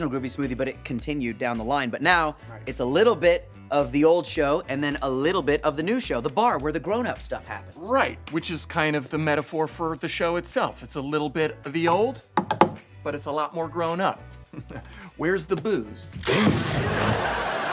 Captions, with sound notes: but it continued down the line. But now it's a little bit of the old show. And then a little bit of the new show, the bar where the grown up stuff happens. Right, which is kind of the metaphor for the show itself. It's a little bit of the old, but it's a lot more grown up. [chuckles] Where's the booze?